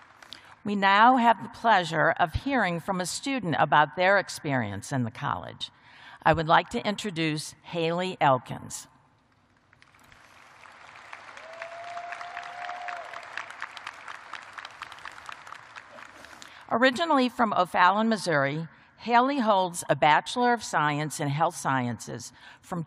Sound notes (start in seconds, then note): 3.4 applause